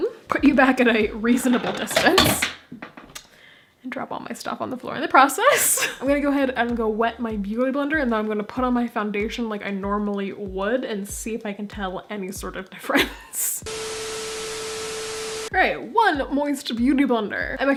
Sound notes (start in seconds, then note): 1.3 clattering; 5.5 laughing; 13.0 laughing; 13.6 static; 13.7 beep